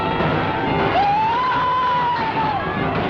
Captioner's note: screams